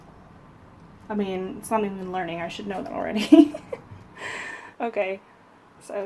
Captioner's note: laughs